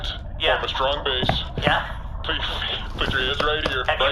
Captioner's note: taps chest